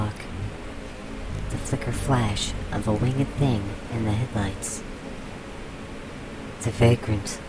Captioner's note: heavy, beating wings dart about